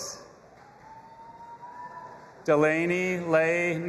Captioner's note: audience applauding and cheering